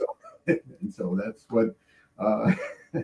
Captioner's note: laughing